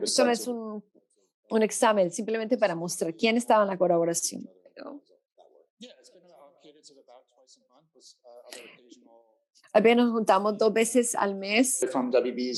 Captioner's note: speaking Spanish